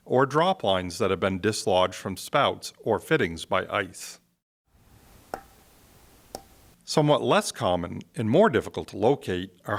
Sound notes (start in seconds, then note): 5.3 hammer tapping